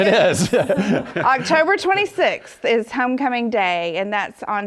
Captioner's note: laugh